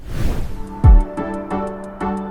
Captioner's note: air whooshes; bright music